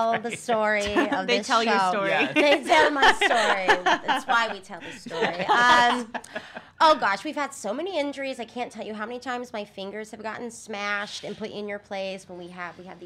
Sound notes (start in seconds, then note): 6.6 laughing